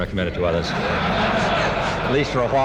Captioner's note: laughter